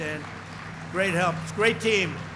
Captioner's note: applause